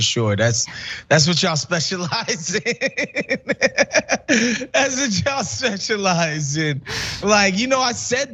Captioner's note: laugh